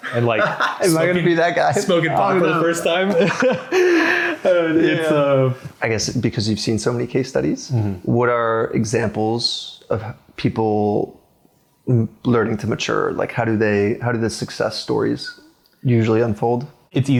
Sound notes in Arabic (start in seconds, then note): 0.0 يضحك; 3.6 يضحك